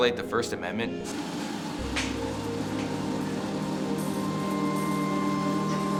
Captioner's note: treadmill whirring over dramatic electronic music